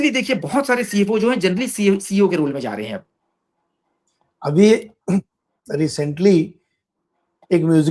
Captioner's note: sound of clearing throat